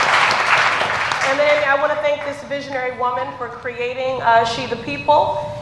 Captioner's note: applause